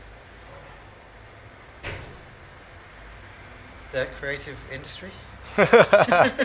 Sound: laughs

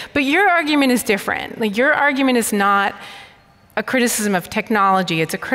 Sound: none

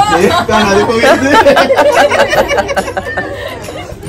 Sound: laughing

